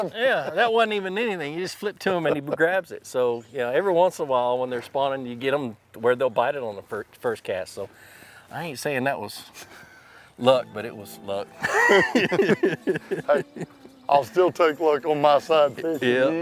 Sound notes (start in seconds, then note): 11.5 both laugh